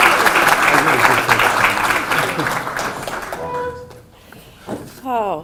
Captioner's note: applause drowns out words